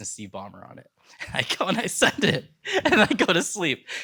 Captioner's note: laughs